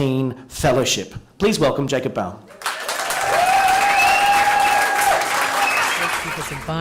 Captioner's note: applause